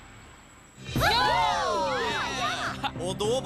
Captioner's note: cheering